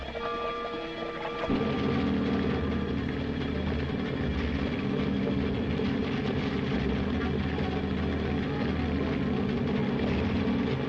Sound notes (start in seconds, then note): 2.2 submarine rumbling